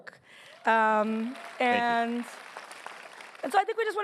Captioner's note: applause